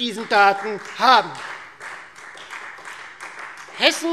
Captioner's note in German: Beifall Freie Demokraten